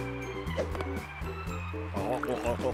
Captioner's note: gulping